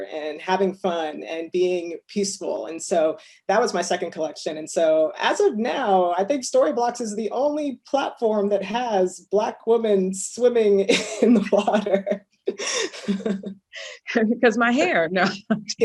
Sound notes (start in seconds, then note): 12.5 laughs